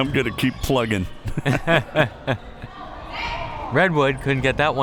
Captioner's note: both laughs